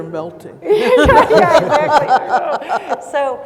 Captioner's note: audience laughs